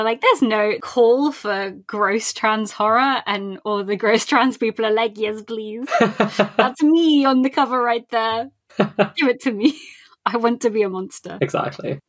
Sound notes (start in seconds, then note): 5.8 laughs; 8.8 laughing; 8.8 laughs